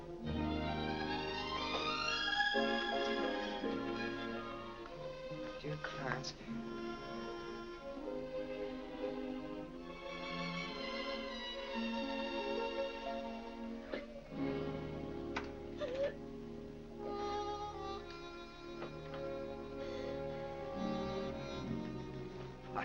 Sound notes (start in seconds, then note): 0.1 upbeat music; 7.0 upbeat music; 13.8 Vinnie sobbing; 17.9 soft sad music